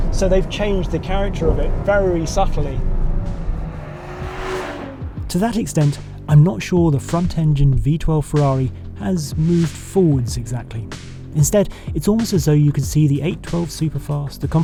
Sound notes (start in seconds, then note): 3.6 revving continues